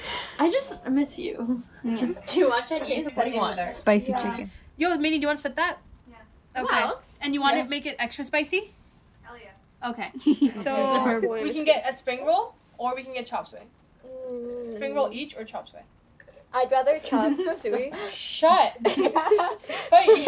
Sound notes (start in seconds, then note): 2.1 overlapping chatter; 18.7 laughter